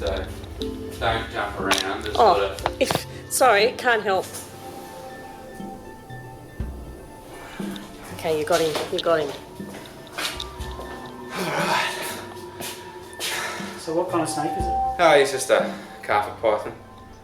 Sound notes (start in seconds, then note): 11.1 sighs